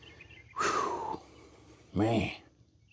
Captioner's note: exhaling